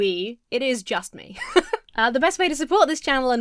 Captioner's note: Emma laughs